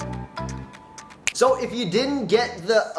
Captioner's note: fingers clicking